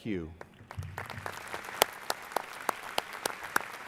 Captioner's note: applause